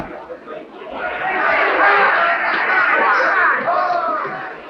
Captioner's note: crowd cheering